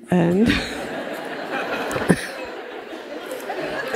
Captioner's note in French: rires